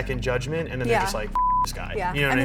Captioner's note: beep